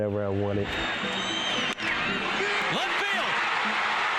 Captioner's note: audience cheering